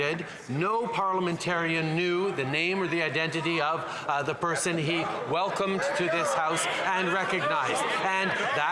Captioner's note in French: voix de l'interprète